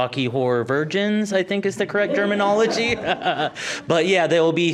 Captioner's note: laughing